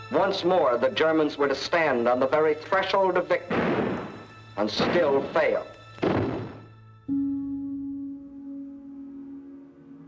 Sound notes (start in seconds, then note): 3.4 gun banging; 7.3 somber music